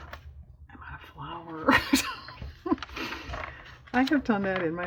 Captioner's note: laughs